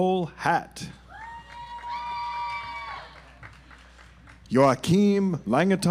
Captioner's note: audience applauds